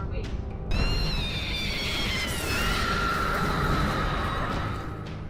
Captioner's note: high-pitched scream